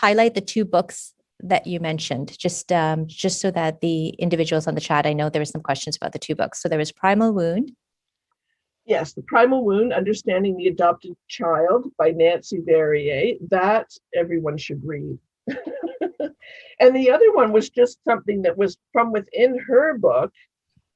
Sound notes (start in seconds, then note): 15.4 laughing